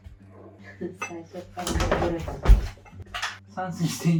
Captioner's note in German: lacht